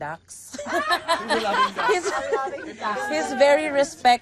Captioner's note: laughing